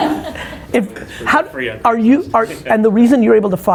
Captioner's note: all laugh